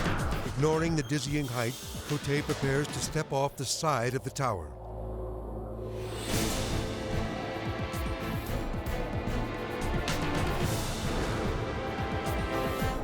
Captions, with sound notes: Ignoring the dizzying height, Cote prepares to step off the side of the tower. (wind whooshing) (tense music)